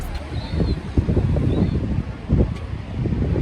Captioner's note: sounds of the seaside